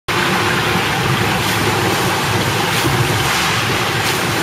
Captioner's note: splashing